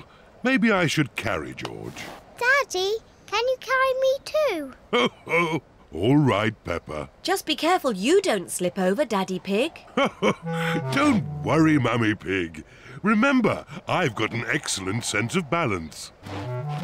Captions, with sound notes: -Maybe I should carry George. -Daddy, can you carry me, too? -Oh, all right, Peppa. -Just be careful you don't slip over, Daddy Pig. (LAUGHS) Don't worry, Mummy Pig. Remember, I've got an excellent sense of balance.